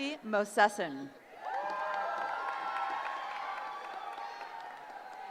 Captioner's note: cheering